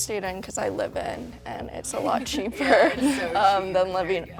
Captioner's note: laughing